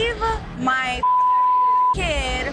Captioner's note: beep